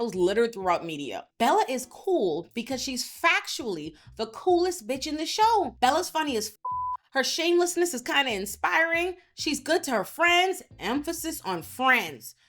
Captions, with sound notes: littered throughout media. Bella is cool because she's factually the coolest bitch in the show. Bella's funny as (beep) her shamelessness is kind of inspiring. She's good to her friends, emphasis on friends.